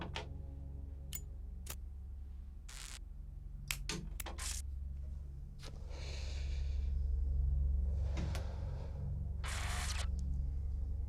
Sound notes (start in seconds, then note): 2.6 buzz; 5.7 deep inhale